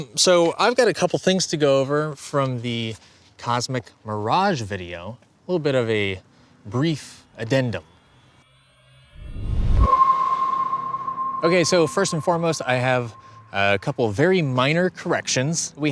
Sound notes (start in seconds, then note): 9.8 spacious ping